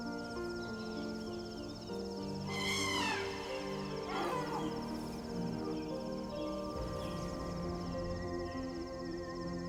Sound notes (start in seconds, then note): 3.7 elephants trumpet